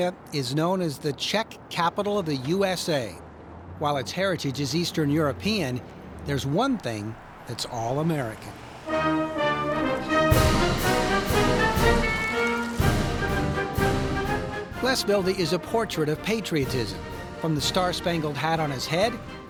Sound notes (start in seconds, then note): 9.2 energetic patriotic music; 12.3 car horn honks; 13.3 energetic patriotic music